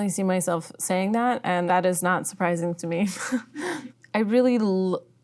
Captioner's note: laughing